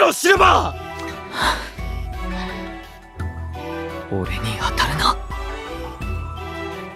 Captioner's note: sigh